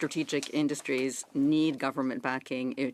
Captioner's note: speaking French